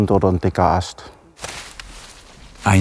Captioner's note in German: Rascheln